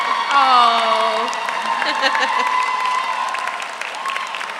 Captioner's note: audience applauds; audience cheers; chuckles